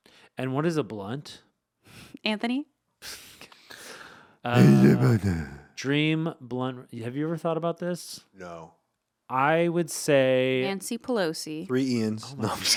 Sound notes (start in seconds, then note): 4.5 grumbling